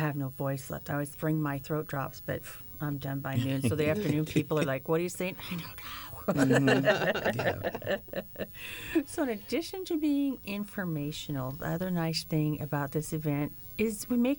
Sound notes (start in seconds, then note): 6.2 laughter; 6.6 whispering